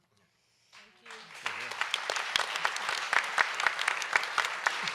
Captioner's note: audience applauds